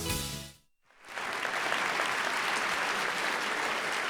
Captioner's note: applause